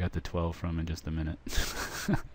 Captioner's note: laughter